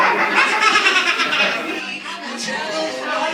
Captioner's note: cackles like a witch